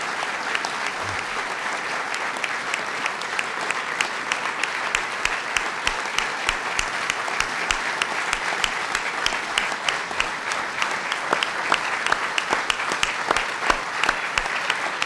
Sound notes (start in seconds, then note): 7.7 applause